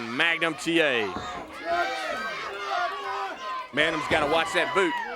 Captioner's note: crowd chatter